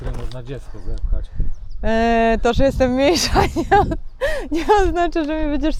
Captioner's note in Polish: śmiech